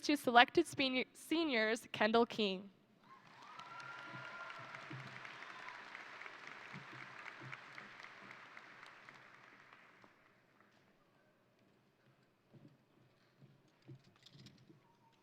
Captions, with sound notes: of these two selected seniors, Kendall King. (crowd cheering) (crowd applauding)